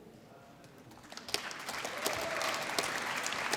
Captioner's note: applause